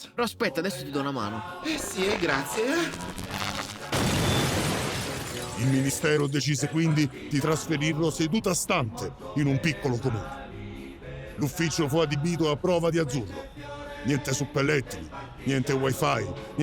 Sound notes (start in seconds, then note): 2.9 loud explosion